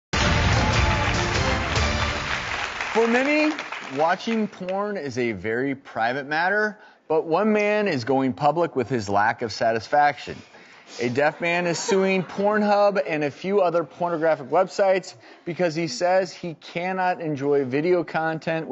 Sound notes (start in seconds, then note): 0.1 upbeat music; 0.1 audience applauding